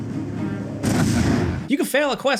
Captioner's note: explosion booming